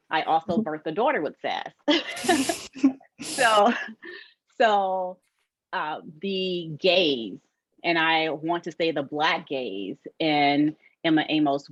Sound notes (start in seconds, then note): 1.8 laughter